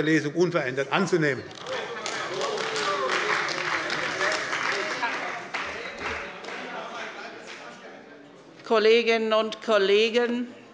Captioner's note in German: Demonstrativer Beifall bei der CDU und dem BÜNDNIS 90/DIE GRÜNEN